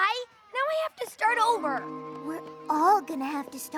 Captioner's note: none